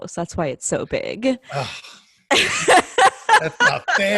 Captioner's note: laughing